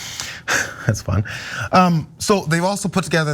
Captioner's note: laugh